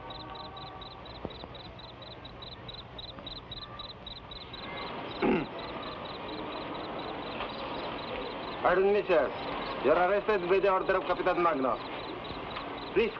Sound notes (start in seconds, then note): 5.2 man clears throat